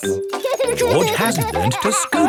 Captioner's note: george laughing